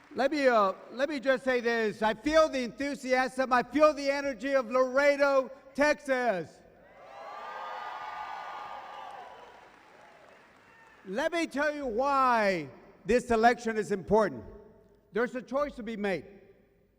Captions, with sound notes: Let me uh, let me just say this. I feel the enthusiasm, I feel the energy of Laredo, Texas! (audience cheering) Let me tell you why this election is important. There's a choice to be made.